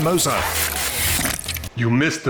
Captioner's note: mud squelching